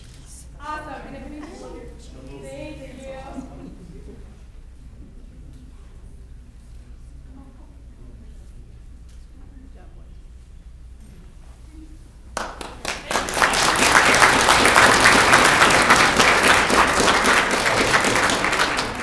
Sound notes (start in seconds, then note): 7.6 audience members chattering; 12.3 audience clapping